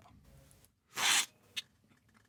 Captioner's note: slurp